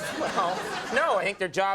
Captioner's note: Conan laughing